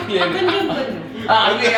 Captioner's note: in Tamil